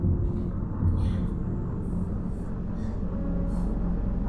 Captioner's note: gasping